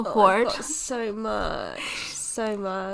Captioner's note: groans